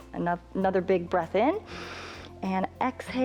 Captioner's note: inhales